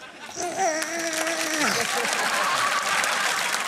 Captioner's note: growls like a weightlifter; applause